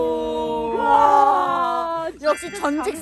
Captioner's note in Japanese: ただ感嘆